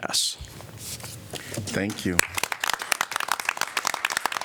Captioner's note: applause